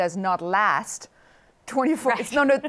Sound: laughs

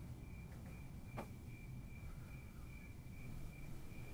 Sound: crickets chirping

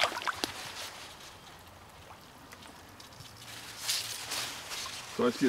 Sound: water sloshing

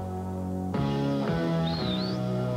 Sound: whistles

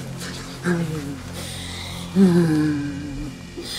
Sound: moans and whimpers

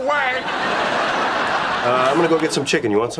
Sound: audience laughing

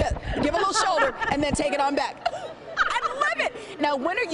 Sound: laughing

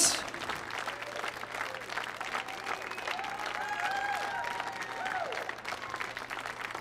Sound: audience cheering and applauding

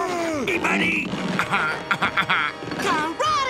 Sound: laughs

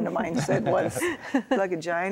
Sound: laughter

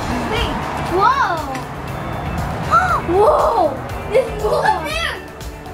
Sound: girls make lots of amazed noises

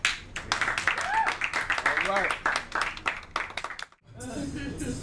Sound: crowd cheers and applauds

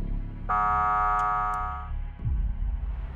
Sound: buzzer

